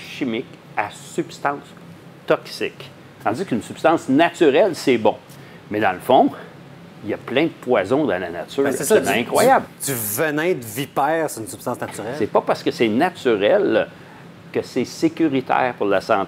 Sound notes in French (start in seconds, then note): none